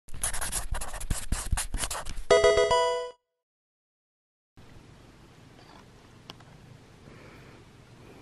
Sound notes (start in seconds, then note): 0.2 pen scribbling; 2.3 pokemon game sound